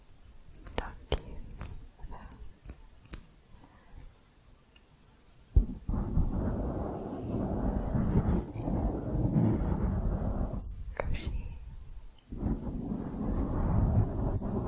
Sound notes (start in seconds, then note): 0.0 light tapping on metal; 5.5 mic scratching